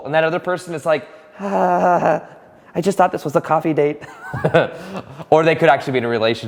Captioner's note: laughing